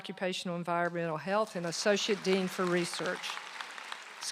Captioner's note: applause